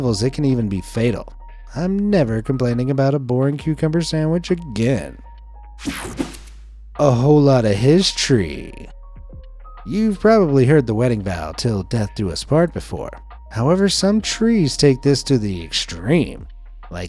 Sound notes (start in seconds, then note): 5.8 screen swishing; 5.8 screen whooshing